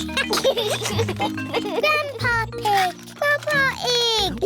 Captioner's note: giggles